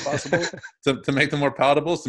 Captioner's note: chuckles